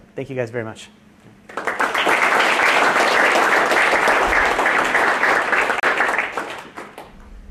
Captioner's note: applause